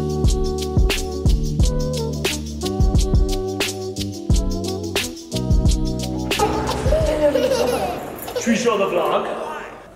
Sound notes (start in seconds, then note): 6.3 laughing